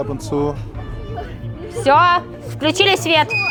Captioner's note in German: Schreie